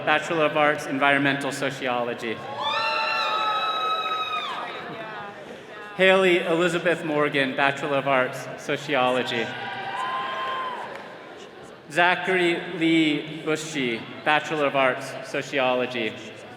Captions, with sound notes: Bachelor of Arts, Environmental Sociology. (all cheering) Haley Elizabeth Morgan, Bachelor of Arts, Sociology. (attendees cheering) Zachary Lee Buschy, Bachelor of Arts, Sociology.